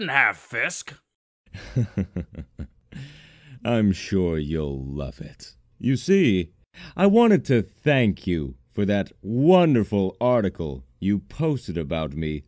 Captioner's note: chuckles